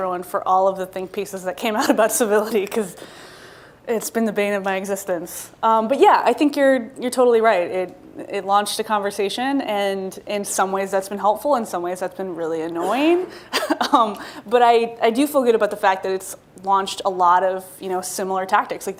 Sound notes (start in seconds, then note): 13.5 laughs